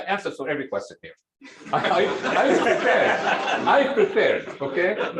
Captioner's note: laughter